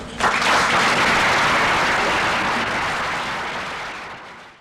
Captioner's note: applause